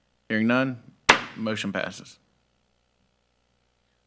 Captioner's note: gavel banging